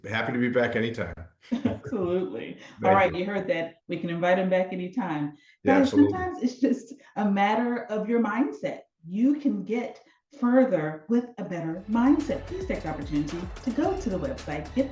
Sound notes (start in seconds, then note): 2.8 laughing